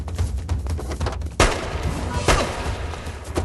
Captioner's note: gun Firing